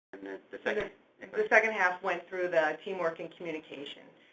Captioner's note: voiceover